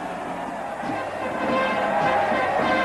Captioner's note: crowd cheering